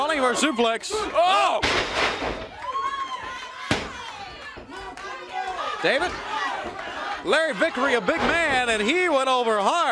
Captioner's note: crowd chatter